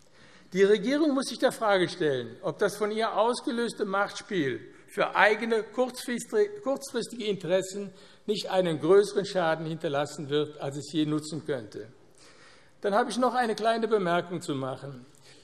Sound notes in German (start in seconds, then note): none